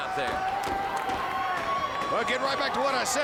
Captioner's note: crowd cheering